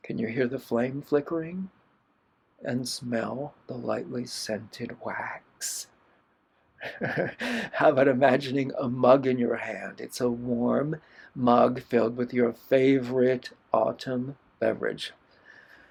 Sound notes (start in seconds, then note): 6.8 laughter